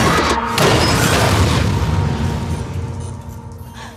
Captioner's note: door thuds